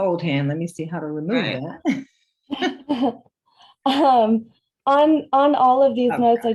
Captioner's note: laughter